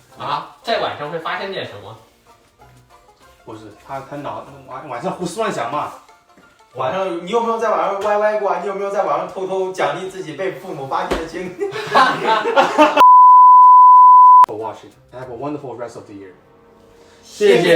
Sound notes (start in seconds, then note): 11.6 laughs